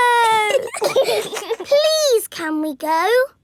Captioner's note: giggling